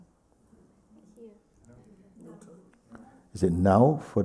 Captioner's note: voices in group